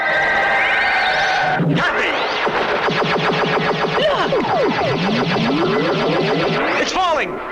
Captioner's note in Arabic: أشعة الليزر تنطلق